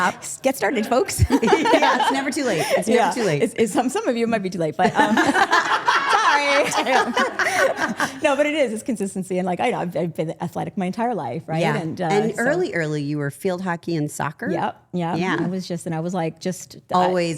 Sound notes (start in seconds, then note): 4.8 group laughing